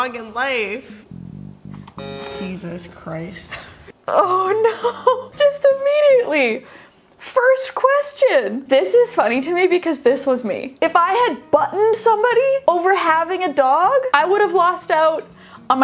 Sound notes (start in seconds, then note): 1.3 button buzzes